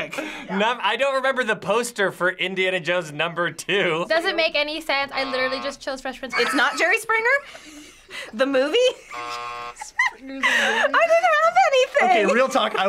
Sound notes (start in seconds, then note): 9.1 buzzer